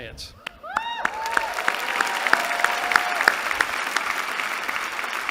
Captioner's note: applause